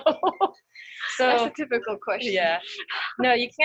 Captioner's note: laughs